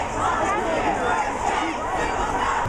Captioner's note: unison chant